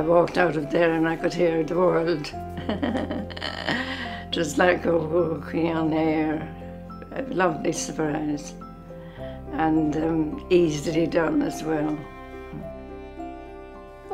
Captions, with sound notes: I've walked out of there and I could hear the world. (laughter) Just like I was walking on air. A lovely surprise, and easily done as well.